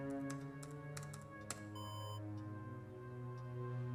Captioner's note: alarm